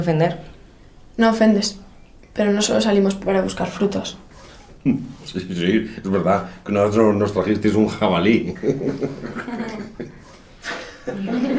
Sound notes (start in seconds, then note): 4.8 laughing; 8.4 laughter